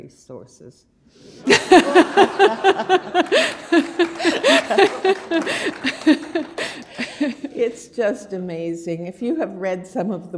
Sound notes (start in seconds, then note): 1.4 laughter; 1.8 applause